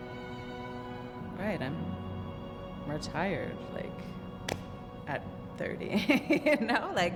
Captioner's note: laughs